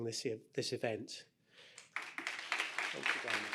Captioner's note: applause